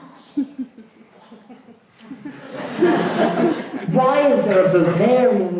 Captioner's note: audience chuckles